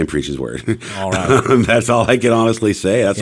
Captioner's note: laughs